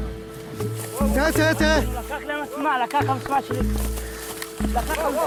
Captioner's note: Arabic spoken audio